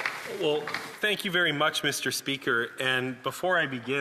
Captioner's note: some Applause